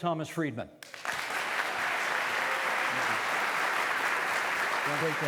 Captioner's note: audience applauding